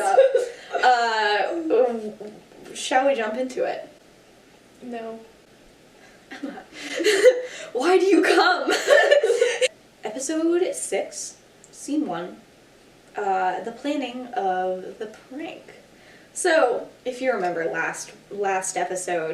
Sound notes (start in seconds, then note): 0.0 giggles; 7.4 exasperated sigh